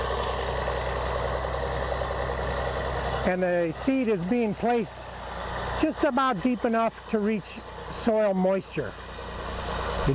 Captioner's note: diesel engine sound